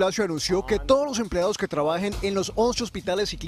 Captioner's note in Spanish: HABLAN EN INGLéS